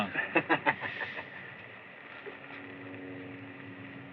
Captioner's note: laughs